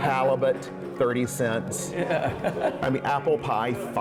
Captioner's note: laughing